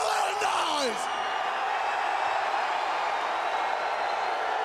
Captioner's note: crowd cheering